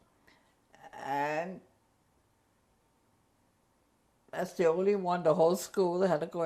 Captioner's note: pauses for 3 seconds